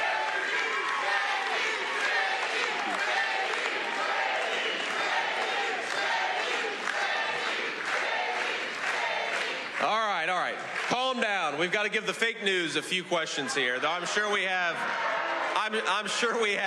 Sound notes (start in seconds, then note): 4.6 cheers and applause; 8.8 audience chanting "j.d."